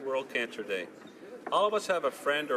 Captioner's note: speaking in french